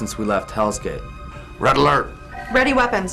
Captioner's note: klaxon